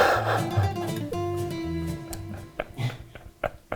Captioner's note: laughing